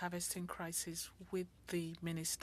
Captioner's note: speaking French